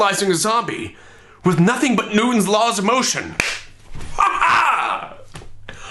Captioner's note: laughs